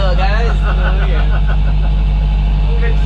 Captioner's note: laughter